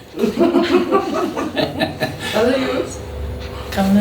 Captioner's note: laughs